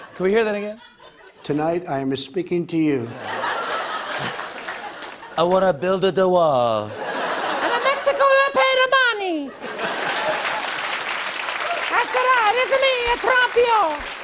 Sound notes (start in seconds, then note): 3.1 laughter and applause; 6.2 laughter; 9.7 cheers and applause